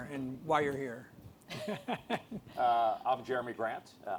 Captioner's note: laughs